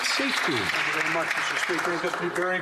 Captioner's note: applause